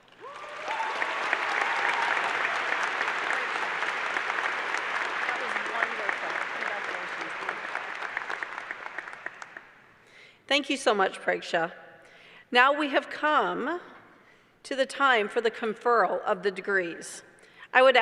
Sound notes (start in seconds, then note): 10.5 applause